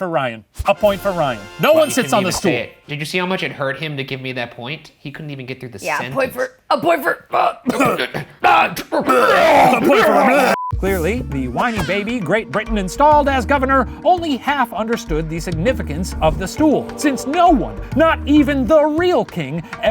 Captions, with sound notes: A point for Ryan. No one sits on the stool. - He couldn't even say it. Did you see how much it hurt him to give me that point? He couldn't even get through the sentence. - Yeah, a point for, a point for- (all retching) - A point for- (retching) Clearly, the whiny baby Great Britain installed as governor only half understood the significance of the stool, since no one, not even the real king,